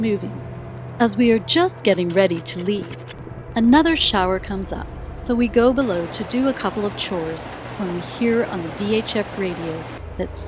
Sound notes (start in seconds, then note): 0.2 ominous music; 5.8 rain pattering